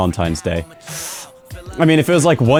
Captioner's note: inhale